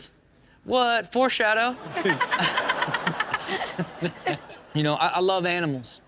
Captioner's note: audience laughs